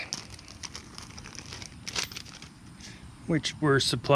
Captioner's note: plastic crackling